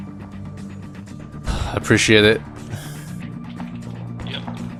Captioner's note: sigh